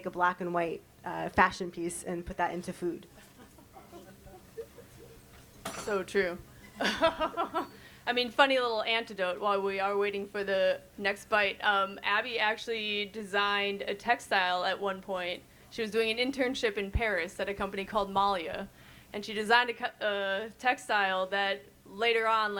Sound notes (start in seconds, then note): 3.2 chuckles; 7.0 chuckles